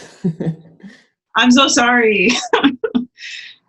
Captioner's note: laughs